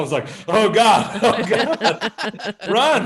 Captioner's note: all laughing